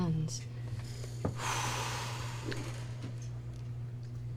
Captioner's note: sighs